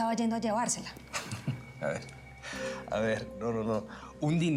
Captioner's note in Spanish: risas